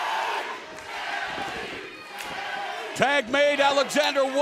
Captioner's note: crowd cheering